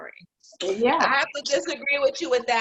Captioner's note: woman's Voice